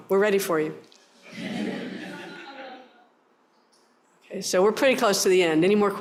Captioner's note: laughter